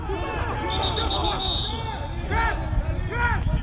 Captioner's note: whistle